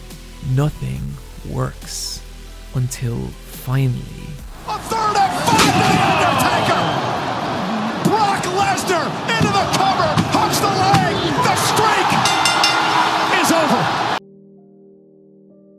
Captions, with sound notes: Nothing works. Until finally... Announcer - Brock Lesnar into the cover! Announcer - Has the leg! The Streak... [bell rings] Announcer - ...is over.